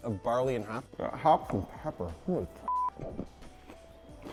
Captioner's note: beep